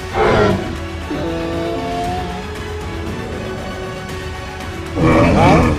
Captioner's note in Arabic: أصوات Triceratops